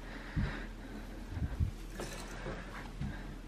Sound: heavy breathing

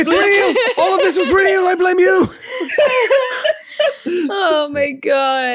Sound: laughing

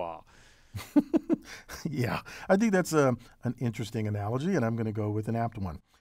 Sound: laugh

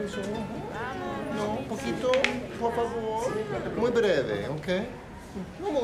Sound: Spanish

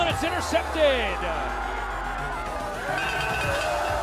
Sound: cheer

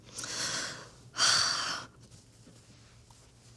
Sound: sighs

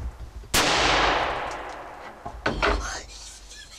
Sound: gunshot

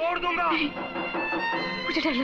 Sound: door knocks

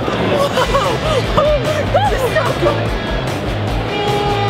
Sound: laughs; upbeat rock music

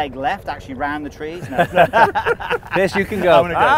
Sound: laughing

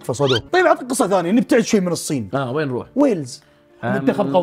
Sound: sad music plays; laughs

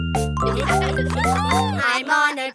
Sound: kids laugh

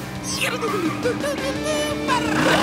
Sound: humming

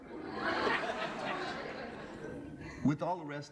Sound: laughter

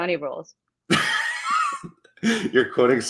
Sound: chuckling

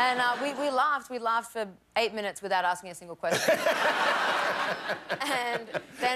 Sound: laughter

